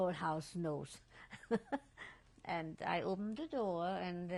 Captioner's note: laughs